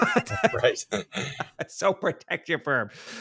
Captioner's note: laughs